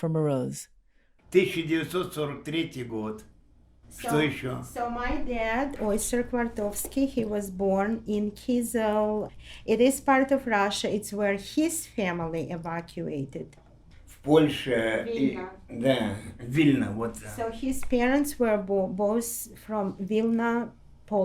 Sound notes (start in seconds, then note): 3.8 Russian